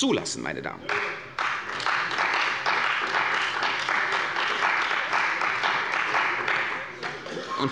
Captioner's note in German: Beifall bei der CDU